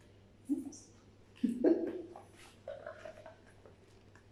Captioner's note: chuckles